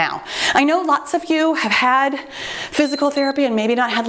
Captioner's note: timer beeps